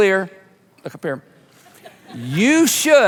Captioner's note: audience laughing